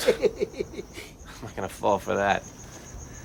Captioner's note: chuckles; scoffs